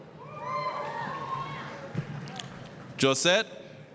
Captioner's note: applause, cheering